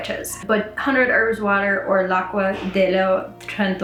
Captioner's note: speaks Italian